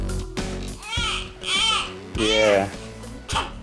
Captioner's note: baby crying